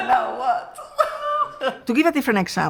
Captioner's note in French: les deux rient